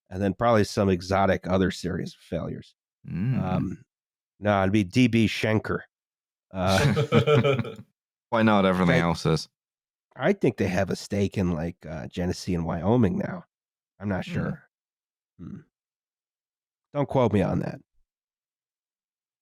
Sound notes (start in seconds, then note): 6.6 laughter